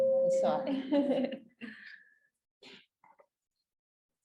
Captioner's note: laughs